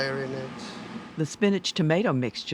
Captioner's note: voiceover